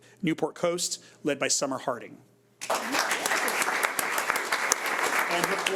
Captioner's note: audience applauds